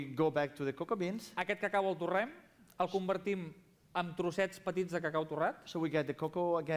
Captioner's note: non-english speech